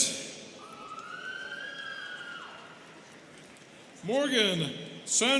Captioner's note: students cheering